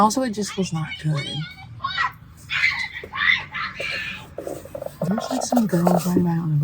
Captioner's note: kid’s screaming loudly in the background